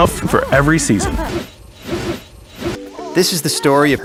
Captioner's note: whooshing noises